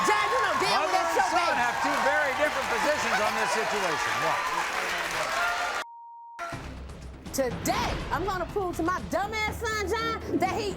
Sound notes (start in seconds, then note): 4.3 clapping and cheering